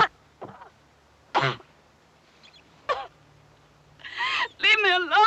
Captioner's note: crying